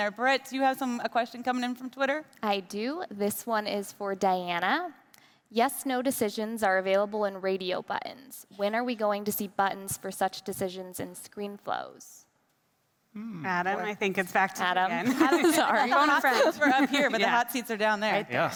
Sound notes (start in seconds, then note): 14.9 laughing